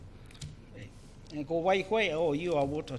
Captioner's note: foreign Language